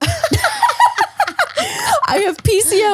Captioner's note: laughing